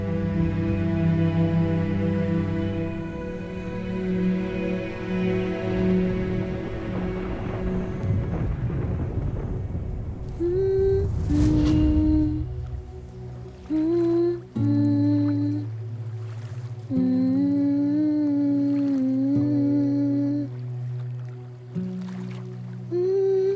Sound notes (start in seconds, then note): 9.9 humming; 15.8 stream gurgling